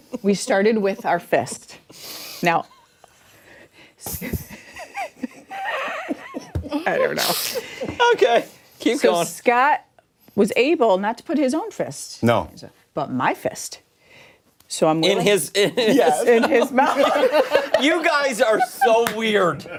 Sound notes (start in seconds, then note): 8.5 laughter